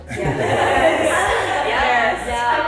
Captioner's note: ladies laughing